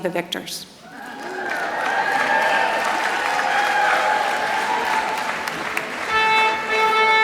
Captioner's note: applause